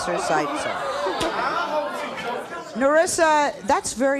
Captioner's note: audience jeering